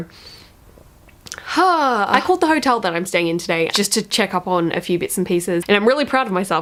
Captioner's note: sighs in panic